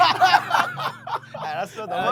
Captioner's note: hahahaha